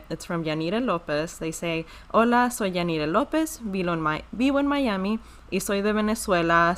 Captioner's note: speaking foreign language